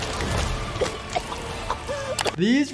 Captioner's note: Uzi coughing